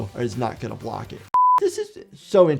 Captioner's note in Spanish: la pantalla emite un pitido